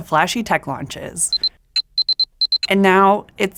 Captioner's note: phone beeping